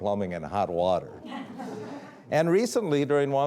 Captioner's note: audience laughing